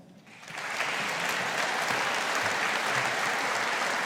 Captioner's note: audience applauding